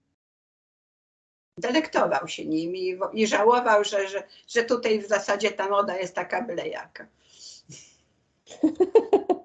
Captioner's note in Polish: śmiech